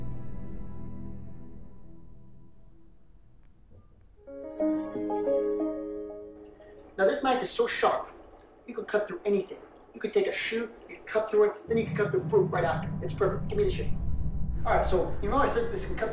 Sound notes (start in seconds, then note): 4.5 TV chiming